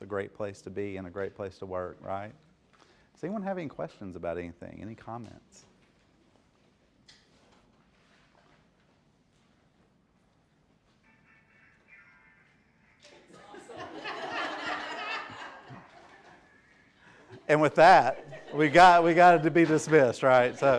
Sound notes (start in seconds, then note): 11.1 phone ringing; 13.2 laughter